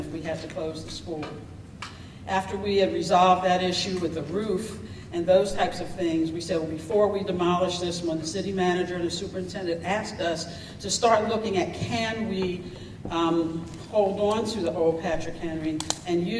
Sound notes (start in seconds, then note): none